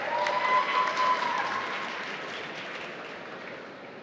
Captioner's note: applause